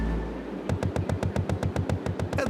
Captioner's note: continuous thuds